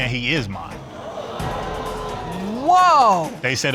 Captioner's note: audience gasp